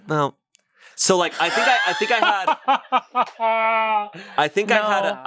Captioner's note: laughs